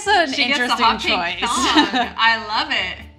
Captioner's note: laughs